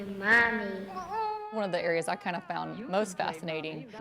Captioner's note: baby cries